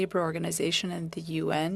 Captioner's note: speaking French